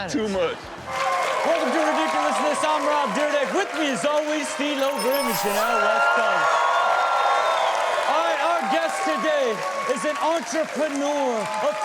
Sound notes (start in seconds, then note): 0.8 audience applauding; 6.4 audience cheering